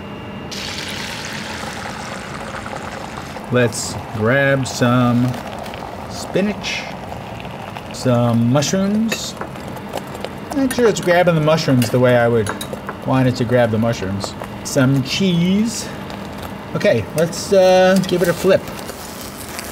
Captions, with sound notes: [egg sizzles] Let's grab some spinach. Some mushrooms. Not sure it's grabbing the mushrooms the way I would want to grab that mushrooms. Some cheese. Okay, let's give it a flip.